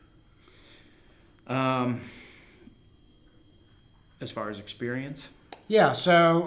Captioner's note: long pause